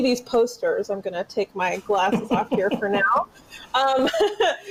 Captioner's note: laughs